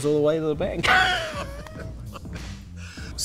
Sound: laughter

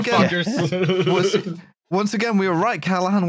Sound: laughs; laughs slightly

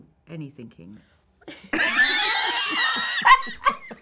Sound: laughing

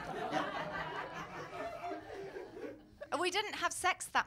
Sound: laughter

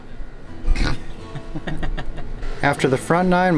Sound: laughter

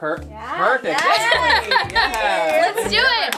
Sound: cheers

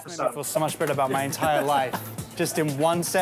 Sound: laughing

